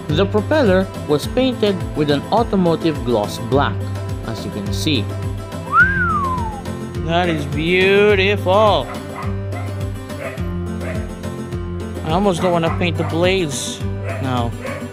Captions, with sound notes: The propeller was painted with an Automotive gloss black, as you can see. *Overly flirtatious whistle* That is Beautiful. That is BEAutiful. That is BEAYUDEFAL! I almost don't want to paint the blades now.